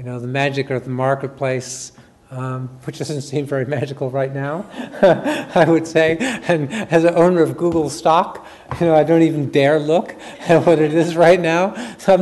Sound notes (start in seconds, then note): 4.7 chuckles